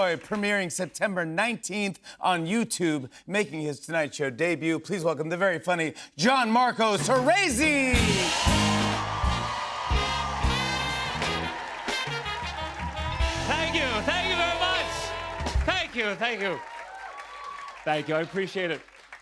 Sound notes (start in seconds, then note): 8.2 cheers and applause